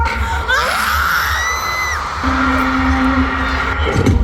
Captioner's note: "Ahhhhhhh" *screams; screams; tears